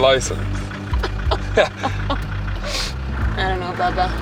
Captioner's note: both laughing